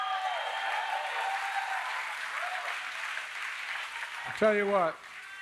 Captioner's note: applause